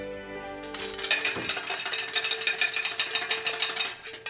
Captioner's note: clanging